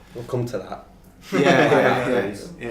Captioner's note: laughing